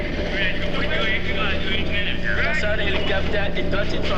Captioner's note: non-English language spoken